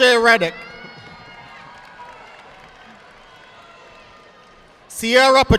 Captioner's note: audience applauding